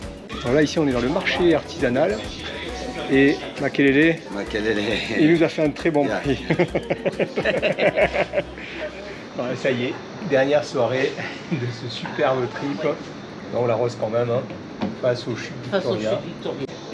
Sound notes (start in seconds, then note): 6.2 laughs